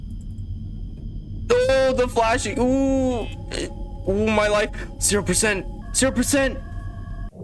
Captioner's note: panicc noises